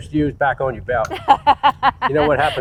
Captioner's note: laughing